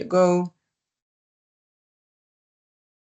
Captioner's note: silence